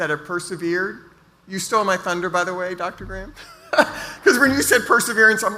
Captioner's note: laughs